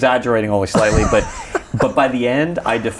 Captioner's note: laughs